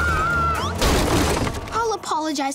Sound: screaming; thudding

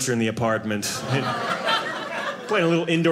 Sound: audience laughing

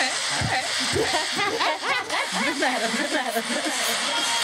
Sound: laughter

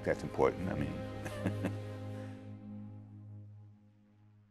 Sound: laughing

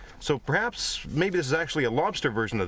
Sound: none

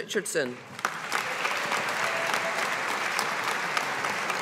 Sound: audience applauding

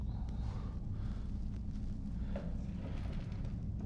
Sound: Mark breathes heavily

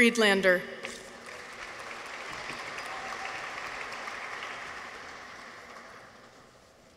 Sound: audience applauds; people cheer

